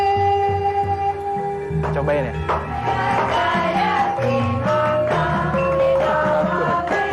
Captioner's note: applause